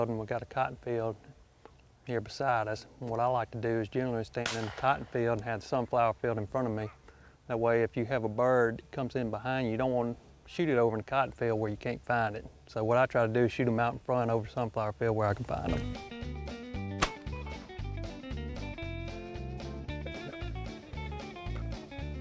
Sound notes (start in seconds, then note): 17.0 loud gunshot; 18.9 upbeat country music